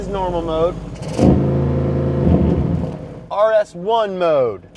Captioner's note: car revving